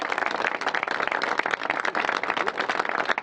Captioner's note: applause